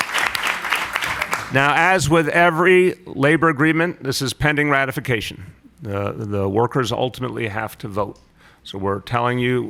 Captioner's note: applause